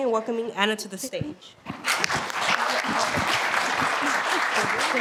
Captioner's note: applause